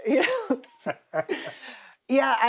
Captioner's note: laughing